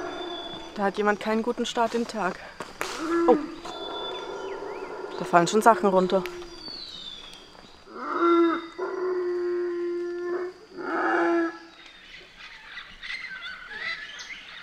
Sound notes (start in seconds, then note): 7.9 monkey roar; 12.7 forest noises